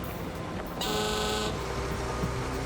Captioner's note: horn blares